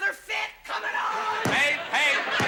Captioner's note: head banging